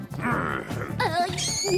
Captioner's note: growl